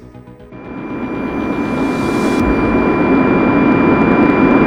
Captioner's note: airplane engine growling